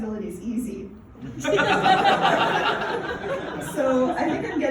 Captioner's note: laughter